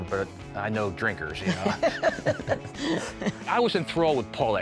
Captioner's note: laughing